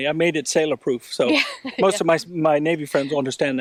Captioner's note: laughs